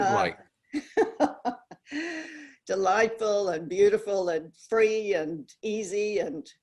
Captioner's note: laughs